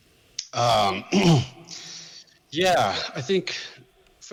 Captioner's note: clears throat